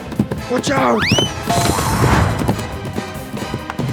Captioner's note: moose gallops; whoosh